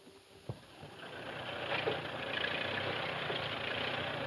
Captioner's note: tractor rumbling